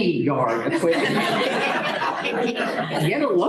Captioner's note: laughter